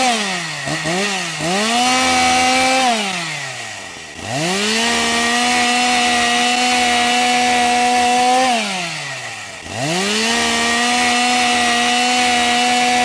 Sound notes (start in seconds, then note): 3.0 chainsaw sound